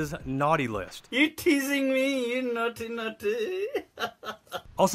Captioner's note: laughs